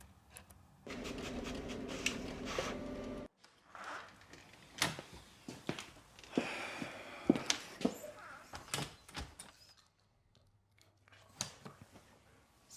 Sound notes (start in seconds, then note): 0.8 printer humming; 6.7 Ron sighs